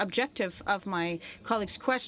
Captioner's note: speaking French